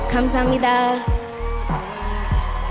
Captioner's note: speaking native language